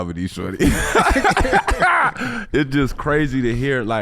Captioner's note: laughing